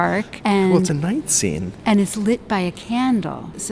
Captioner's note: laughing